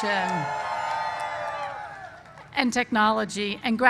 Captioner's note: cheers